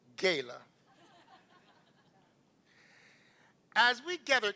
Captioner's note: laughter